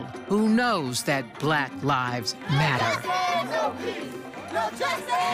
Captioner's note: cheering and applauding